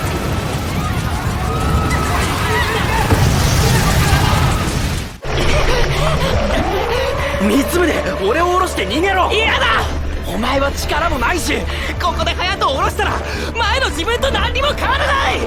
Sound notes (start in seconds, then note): 1.2 humans shrieking in fear; 3.0 debris smashes on ground; 3.0 monster moving; 5.7 man scared voices panting